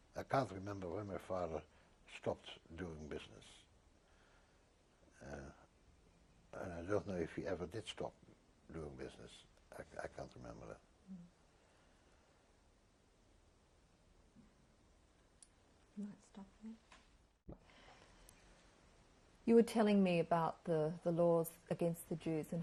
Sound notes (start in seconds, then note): 3.6 pauses for 3 seconds